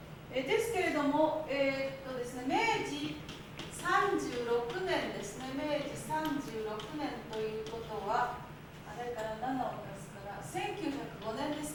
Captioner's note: speaking Japanes